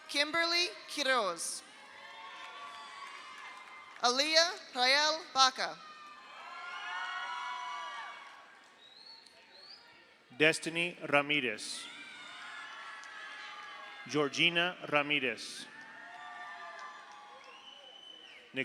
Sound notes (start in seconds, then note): 1.7 audience cheers; 1.8 audience applauds; 5.8 audience cheers; 5.9 audience applauds; 11.7 audience cheers; 12.2 audience applauds; 15.7 audience cheers